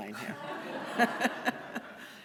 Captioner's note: laughter